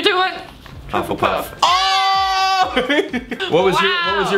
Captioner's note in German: kichert